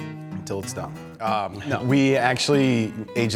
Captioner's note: laughs